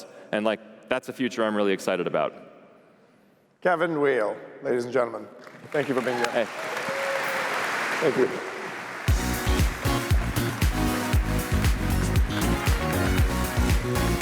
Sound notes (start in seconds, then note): 8.5 applause